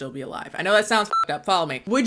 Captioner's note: beep